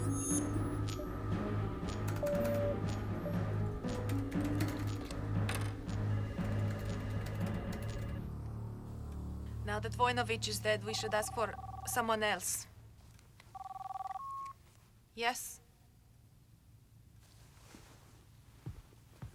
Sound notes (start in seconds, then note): 13.5 cell phone rings